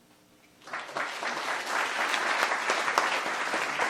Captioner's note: applause